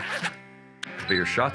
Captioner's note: zipper unzipping; camera shutter